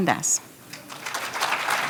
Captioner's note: applause